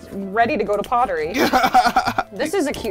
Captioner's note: laughs